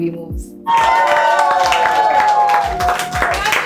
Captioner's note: everyone cheering and clapping